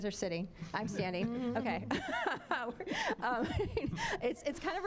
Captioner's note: all laughing